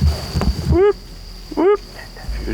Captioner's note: hog calling